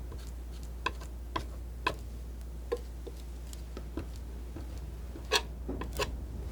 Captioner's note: scratching